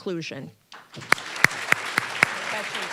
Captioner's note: applause